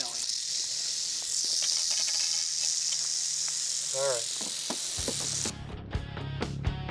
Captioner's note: snake rattling